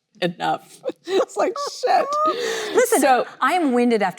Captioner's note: both laughing